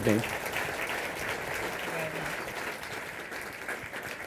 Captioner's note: applause